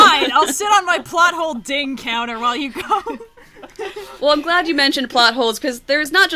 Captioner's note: laughs